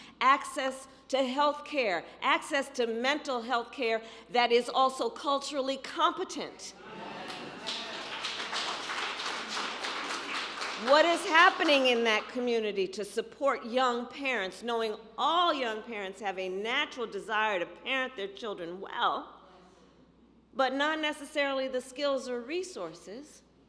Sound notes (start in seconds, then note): 7.2 applause